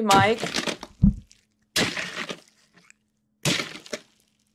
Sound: blood splatters

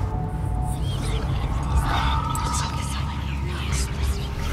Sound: suspenseful music; voices whispering

